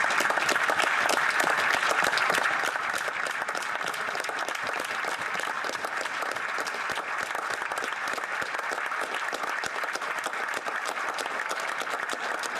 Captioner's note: applause